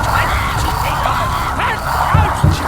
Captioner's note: door knocking